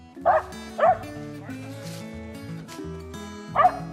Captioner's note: barking